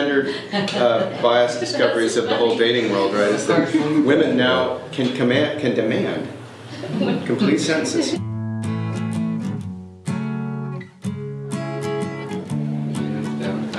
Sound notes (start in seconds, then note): 6.7 laughs; 10.1 light guitar music